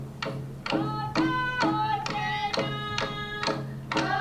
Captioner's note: chanting